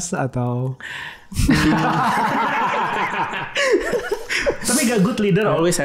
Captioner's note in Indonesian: tertawa